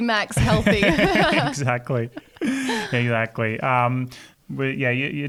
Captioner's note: laughing